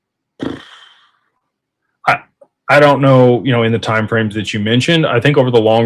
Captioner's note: clears throat